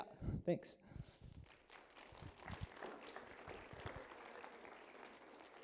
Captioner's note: applause